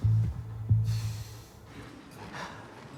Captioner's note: sighs